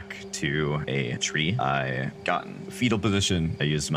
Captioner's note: cricket chirping